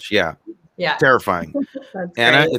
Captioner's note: laughing